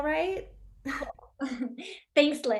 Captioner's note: Lydia and Catherine laughing